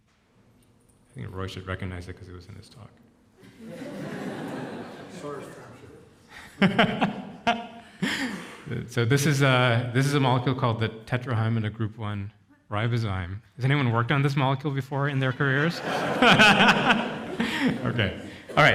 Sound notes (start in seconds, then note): 3.4 audience chuckles; 6.3 chuckles; 15.5 audience laughs; 16.1 laughs